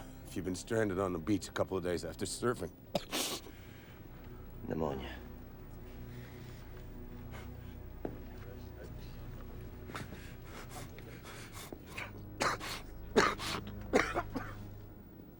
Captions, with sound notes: if you've been stranded on the beach a couple of days after surfing. (Bill coughs) - Pneumonia. (tense music) (Bill coughs)